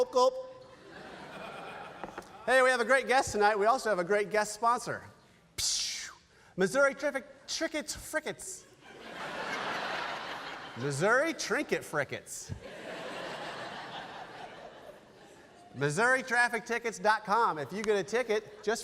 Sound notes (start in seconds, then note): 5.7 making a sound like gas passing through an opening